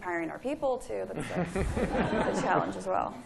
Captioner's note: laughter